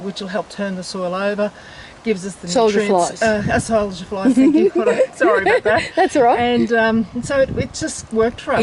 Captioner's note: laughs